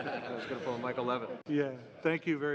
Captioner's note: laughter